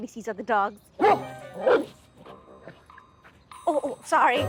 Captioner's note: Bailey barking